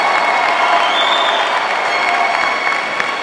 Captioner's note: cheering